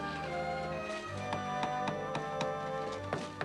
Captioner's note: hammering